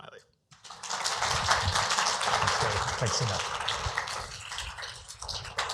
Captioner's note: applause